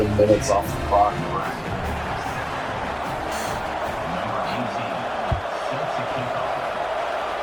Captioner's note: crowd Noises